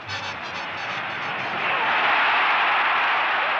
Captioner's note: crowd cheering